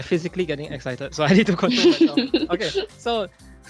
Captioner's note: moderator chuckling